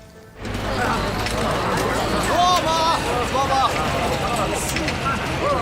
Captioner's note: marketplace chatter